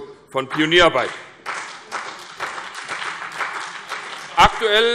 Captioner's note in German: Beifall CDU und BÜNDNIS 90/DIE GRÜNEN